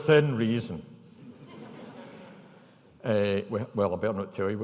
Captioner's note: audience laughing